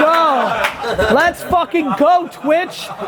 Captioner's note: claps